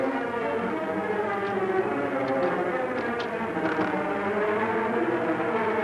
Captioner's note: ominous music; door handle rattles; suspenseful music